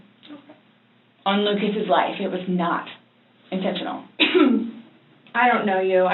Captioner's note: coughs